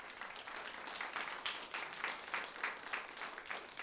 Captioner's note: applause